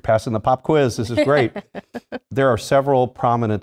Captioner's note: laugh